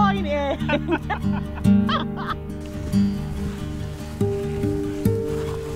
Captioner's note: laugh